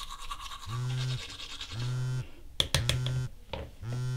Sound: phone vibrates

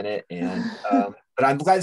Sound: laughs

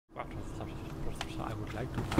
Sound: gibberish and rustling heard off to the right, getting closer

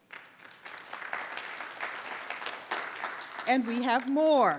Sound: audience applauds

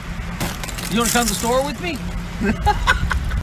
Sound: laughter

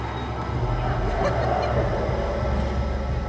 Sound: laughing

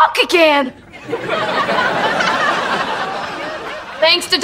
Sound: laughs

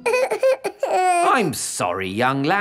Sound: whimpers

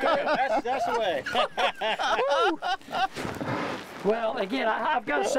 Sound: group laughing

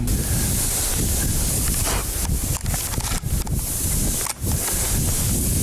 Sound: grass rustling, wind blowing

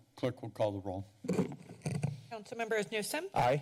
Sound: mic sounds

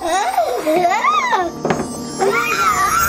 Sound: screaming

